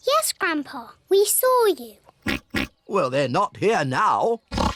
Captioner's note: oinks